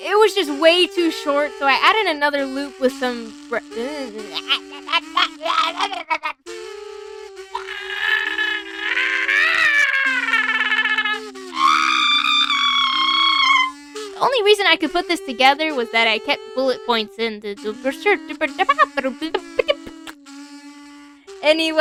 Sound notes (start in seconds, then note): 4.8 dissolves into goofy and gurgling stammering; 7.4 female R2-D2 and Inkling scream combo